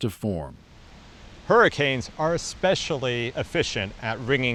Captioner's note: wind gusting